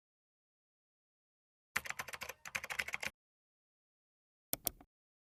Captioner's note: keyboard clicking